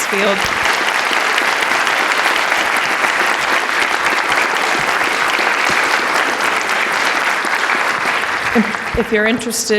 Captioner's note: applause